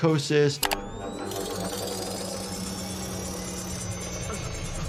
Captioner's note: mechanical whirring